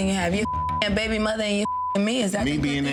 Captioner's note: beep